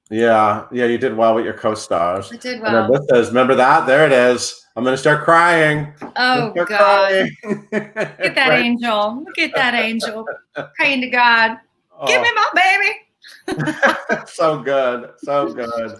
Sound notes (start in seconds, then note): 7.8 laughs; 13.3 both laugh